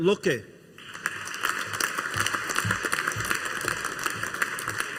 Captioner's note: audience applauding